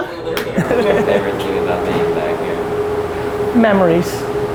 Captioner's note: laughing